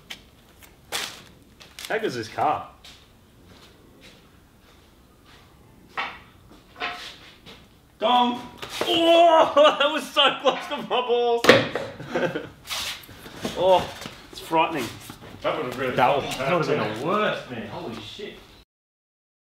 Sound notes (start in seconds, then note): 11.3 clatters; 12.0 laughs